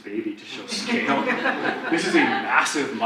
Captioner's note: audience laughs